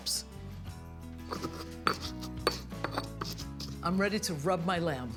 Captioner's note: grinding